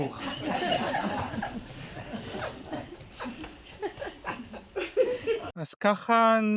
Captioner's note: audience laughs